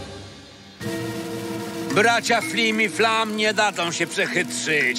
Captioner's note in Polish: none